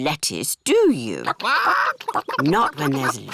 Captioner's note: chickens chatter